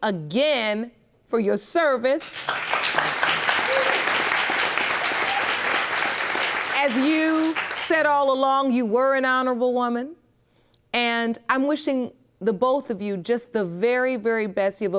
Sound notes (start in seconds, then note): 2.2 audience claps